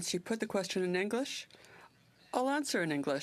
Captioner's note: speaking french